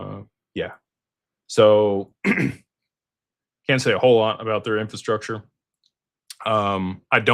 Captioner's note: clears throat